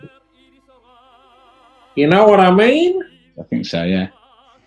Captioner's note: 1920s GANGSTER ACCENT